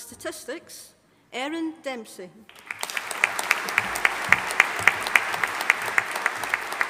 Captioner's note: audience applauding